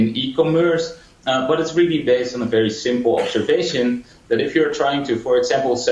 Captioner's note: cough